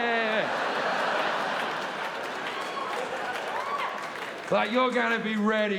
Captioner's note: audience laughing; audience applauding